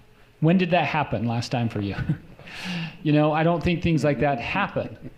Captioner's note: chuckles